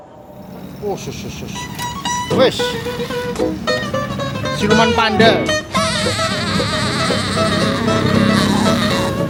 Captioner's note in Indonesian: hhahah